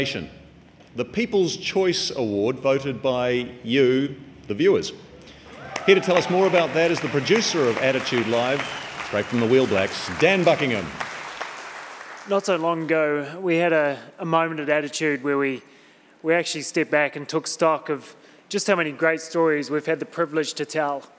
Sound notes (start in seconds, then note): 5.2 audience clapping and cheering